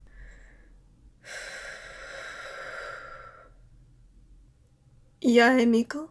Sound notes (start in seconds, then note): 1.2 sigh